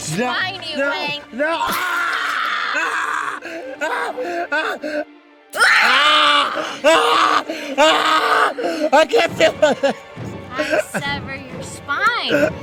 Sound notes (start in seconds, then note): 1.6 gory sound of claw stabbing into back; 3.2 screams